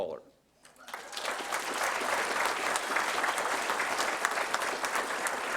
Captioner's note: applause